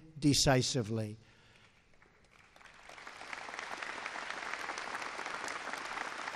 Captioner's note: applause